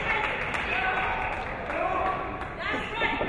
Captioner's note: clapping; yelling